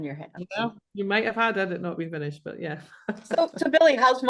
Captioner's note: laughs